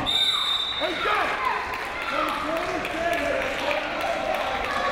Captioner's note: whistle, cheering